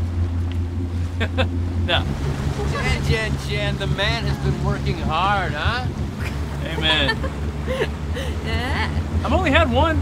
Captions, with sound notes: [chuckling] no what Jen Jen Jen, the man has been working hard, huh amen [giggling] I've only had one